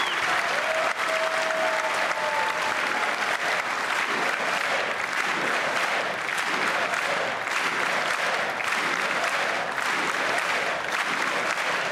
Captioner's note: cheers and applause